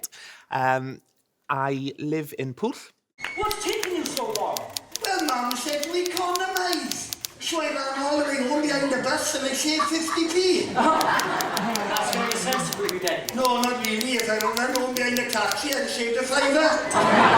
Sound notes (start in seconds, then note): 3.4 typewriter noise